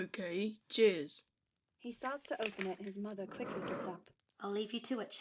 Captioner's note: paper crinkling and chair scraping